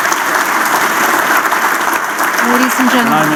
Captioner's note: applause